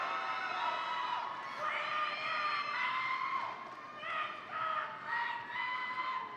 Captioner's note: audience cheering; shouts